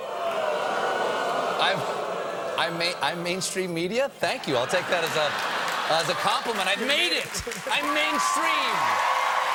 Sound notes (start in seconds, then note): 4.0 audience booing